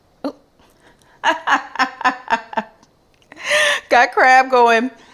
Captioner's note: laughs loudly